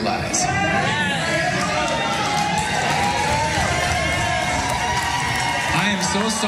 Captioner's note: applause